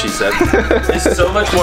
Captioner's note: laughing